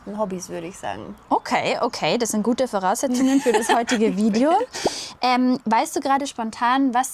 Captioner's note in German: schnauben